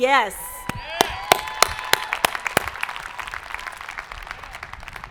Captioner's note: audience applauding